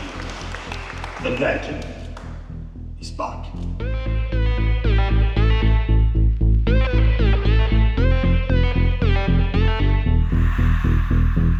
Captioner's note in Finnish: Aplodeja